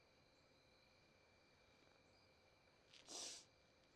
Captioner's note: sniffles